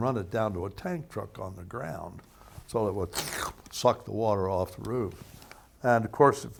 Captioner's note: slurping noise